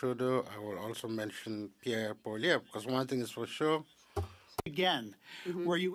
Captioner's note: speaking French